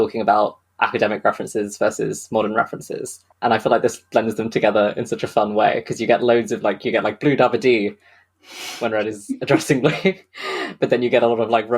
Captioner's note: laughing